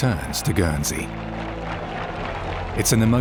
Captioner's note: crowd cheers and applauds